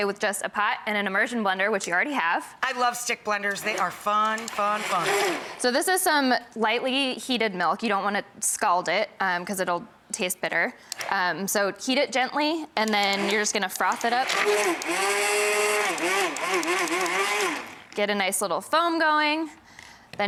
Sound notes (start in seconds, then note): 14.6 blender roaring